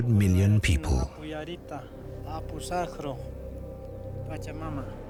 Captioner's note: speaking Quechuan